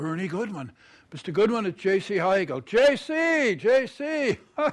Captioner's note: chuckles